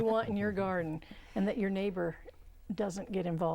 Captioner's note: laughing